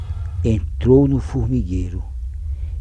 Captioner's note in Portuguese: Vibração